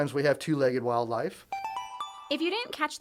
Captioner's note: chime